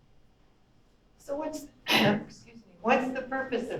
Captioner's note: clears throat